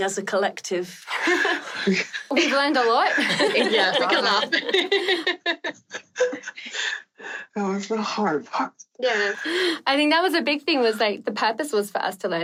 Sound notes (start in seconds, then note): 1.1 laughing